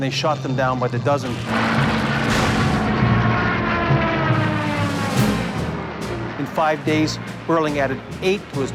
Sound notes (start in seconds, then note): 2.9 aircraft explodes